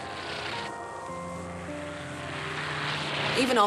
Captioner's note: propeller-driven aircraft engine